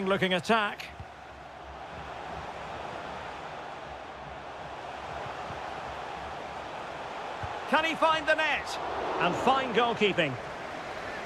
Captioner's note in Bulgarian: Аплодисменти